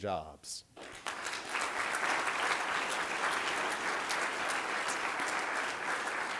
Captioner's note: applause